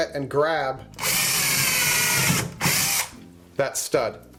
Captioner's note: drilling